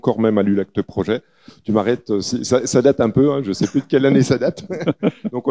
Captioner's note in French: rires